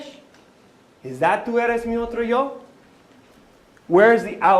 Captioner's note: non-english speech